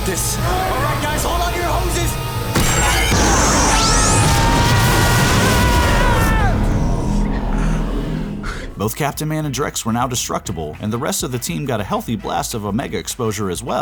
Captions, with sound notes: Alright, guys, hold on to your hoses! [screaming] Both Captain Man and Drex were now destructible and the rest of the team got a healthy blast of Omega exposure as well.